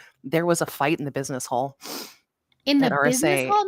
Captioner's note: sniffles